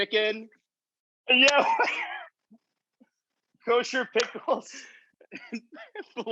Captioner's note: laughs